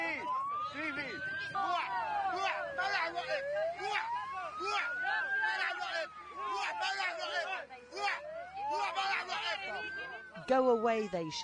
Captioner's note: refugees shout